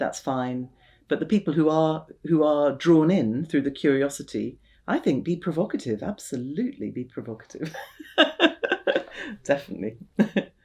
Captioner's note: laughs